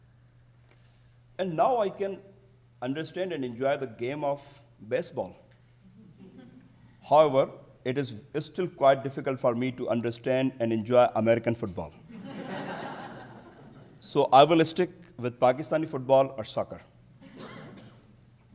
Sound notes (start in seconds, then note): 12.2 audience chuckles